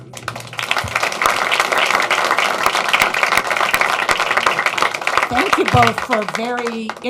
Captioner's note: applause